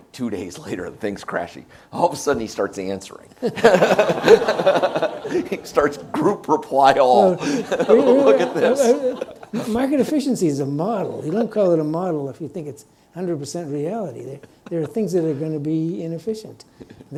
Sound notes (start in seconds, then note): 3.5 audience laughs